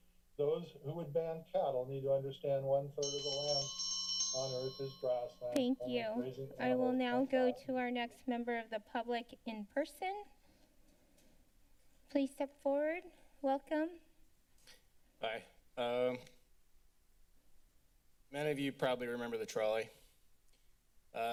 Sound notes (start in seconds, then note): 3.0 timer rings